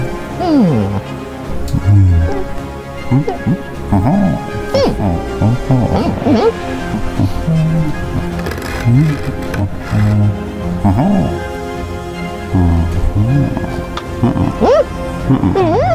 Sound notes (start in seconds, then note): 7.0 bin hand hums jauntily